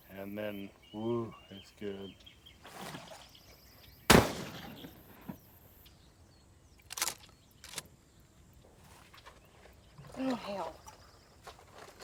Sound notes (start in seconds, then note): 2.6 birds chirping; 4.1 gunshots firing; 6.8 gun clicking